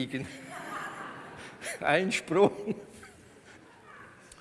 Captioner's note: laughs